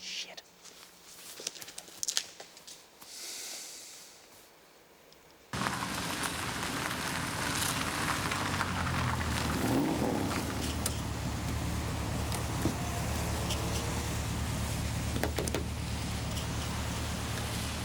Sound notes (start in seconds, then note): 1.6 footsteps tapping; 3.4 John sighs; 5.8 car engine revving; 15.1 hands tapping